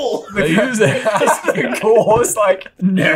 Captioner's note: all laughing